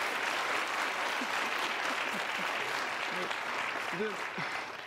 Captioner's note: applause